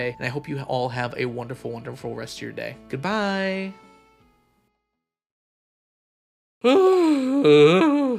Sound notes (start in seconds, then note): 6.6 sighing and groaning